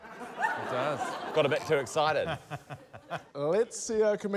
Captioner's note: laughter